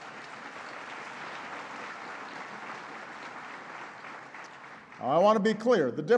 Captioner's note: applause